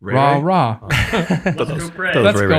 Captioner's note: group laughing